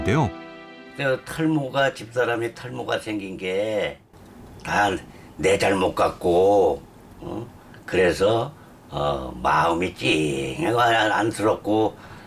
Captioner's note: voiceover